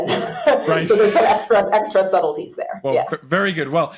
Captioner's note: laughs